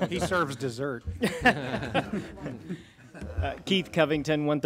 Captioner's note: laughing